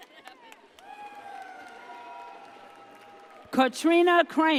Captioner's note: audience cheers